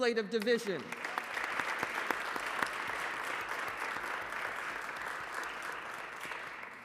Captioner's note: applause